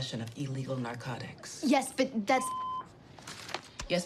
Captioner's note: intercom beeps